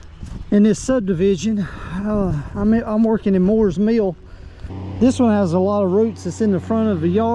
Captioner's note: sighs and gasps